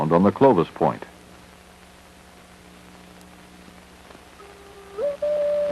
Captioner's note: static